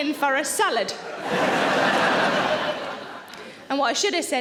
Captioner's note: audience laughing